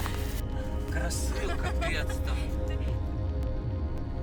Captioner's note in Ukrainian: сміх; сміється